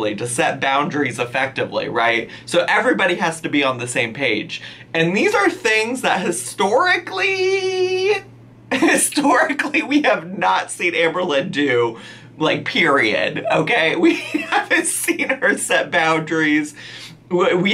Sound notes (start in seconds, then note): 7.5 laughs; 13.7 laughs